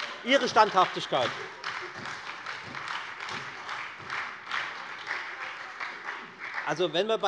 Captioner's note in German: Beifall bei der FDP und der SPD